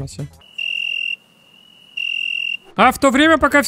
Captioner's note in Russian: Сверчки